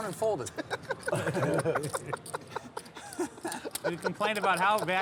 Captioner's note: laughing